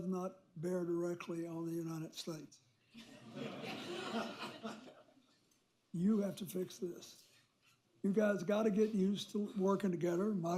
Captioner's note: laughter